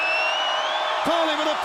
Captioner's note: crowd cheering